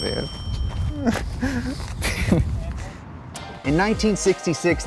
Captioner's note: laughs